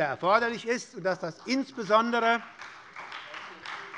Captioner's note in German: Beifall bei der SPD